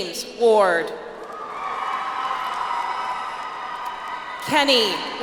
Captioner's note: audience applauds